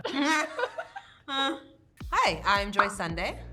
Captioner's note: Joy and Emma laughing